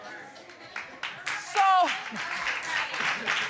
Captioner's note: audience applauding